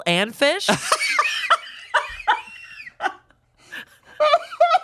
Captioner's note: laughs